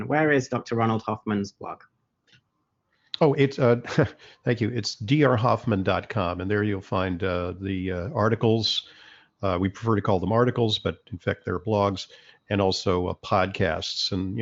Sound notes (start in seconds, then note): 3.2 chuckles